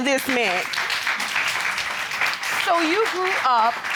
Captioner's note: audience applauding